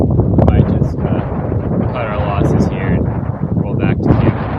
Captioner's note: wind blowing